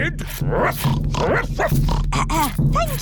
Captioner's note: oinks; clears throat; barks